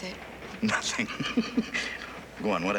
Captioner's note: laughing